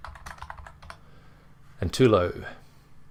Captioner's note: keyboard typing